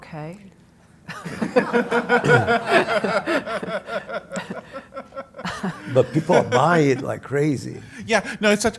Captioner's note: laugh